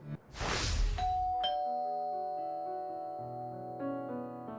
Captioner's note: doorbell sound